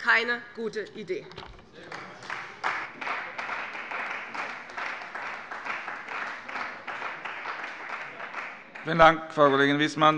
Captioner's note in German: Beifall bei der CDU